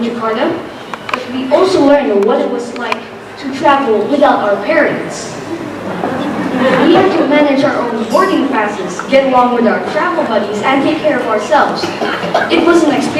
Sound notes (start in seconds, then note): 5.8 laughter